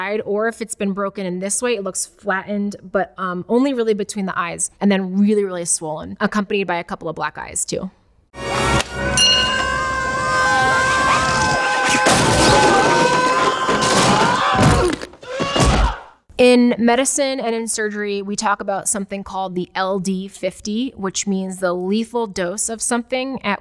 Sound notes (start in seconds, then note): 9.1 bell dings; 9.4 both yell; 11.3 wood crashes; 15.6 Marv yells